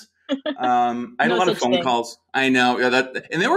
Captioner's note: laughs